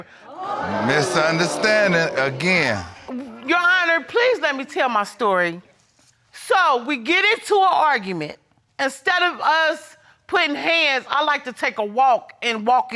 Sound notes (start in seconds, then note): 0.1 crowd gasping